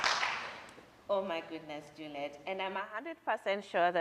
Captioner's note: applause